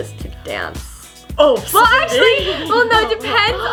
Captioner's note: laughs